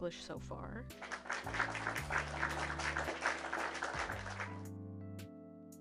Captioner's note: clapping